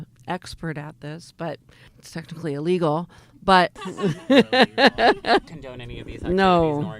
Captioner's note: laughs